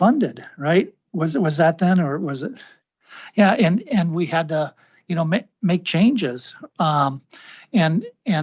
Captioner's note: clears throat